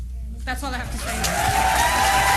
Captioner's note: applause